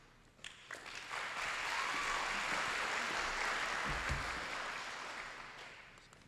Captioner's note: applause